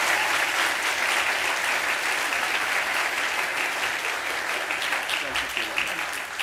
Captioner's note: applause